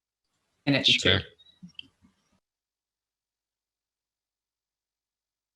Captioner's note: speaking faintly